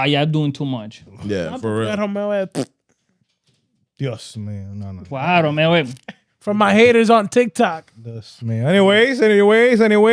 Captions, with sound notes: yeah, I'm doing too much. Yeah, for real. (Speaking In Foreign Language) Yes, man, I know. Wow, man, wait. For my haters on TikTok. Yes, man, anyways, anyways, anyways.